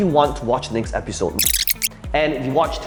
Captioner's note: video squeaking